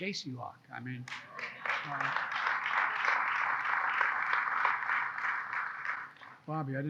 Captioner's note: applause